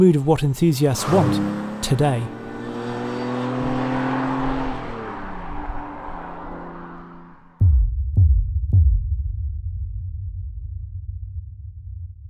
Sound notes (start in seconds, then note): 2.9 car engine humming; 7.6 throbbing music